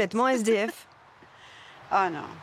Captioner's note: giggles